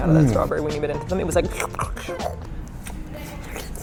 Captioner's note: slurp sounds